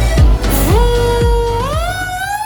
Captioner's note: siren